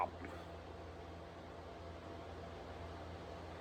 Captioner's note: none